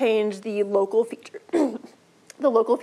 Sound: clears throat

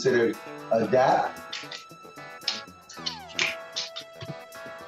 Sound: hands slapping

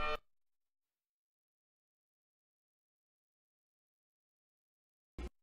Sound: silence

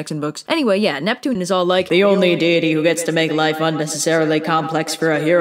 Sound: deep voice

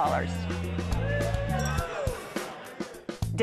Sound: all cheering

